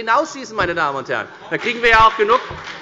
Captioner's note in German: Beifall bei der FDP